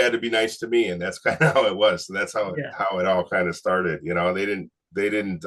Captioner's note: chuckles